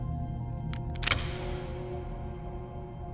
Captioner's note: lock clicks; gentle poignant music continues